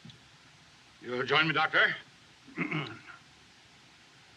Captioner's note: clears Throat